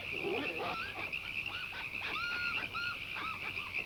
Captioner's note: barking